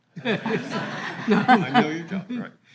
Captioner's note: all laughing